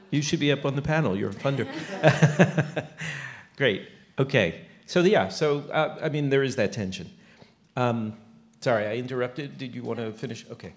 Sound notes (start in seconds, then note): 1.4 laughter